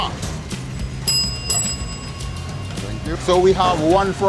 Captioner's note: bell ringing